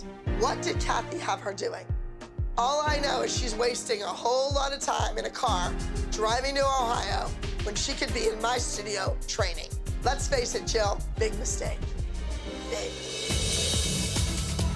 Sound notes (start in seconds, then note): none